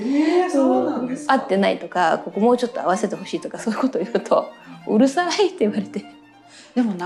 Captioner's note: laughs